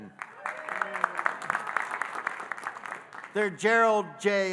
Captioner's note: audience cheering and applauding